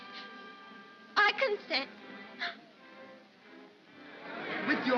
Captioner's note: sobbing